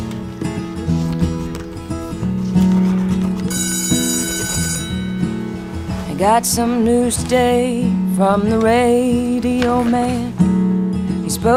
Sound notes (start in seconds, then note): 3.4 school bell rings